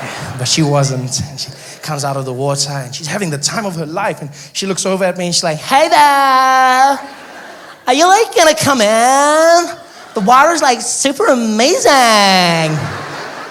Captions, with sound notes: But she wasn't. She comes out of the water and she's having the time of her life! And she looks over at me and she's like, *surfer girl accent* "Heeeeeey there! Are you like gonna come in? The water is like super ahhh-mazing!"